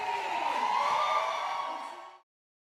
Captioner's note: cheers